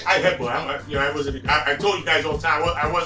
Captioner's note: stammered